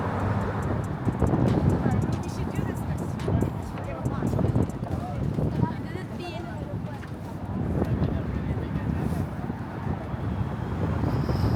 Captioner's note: wind blowing